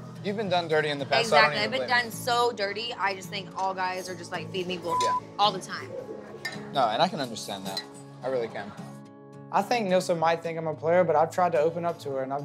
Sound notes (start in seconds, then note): 4.8 beep